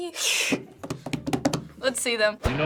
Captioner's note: rapping table